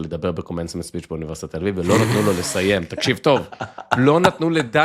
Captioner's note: laughter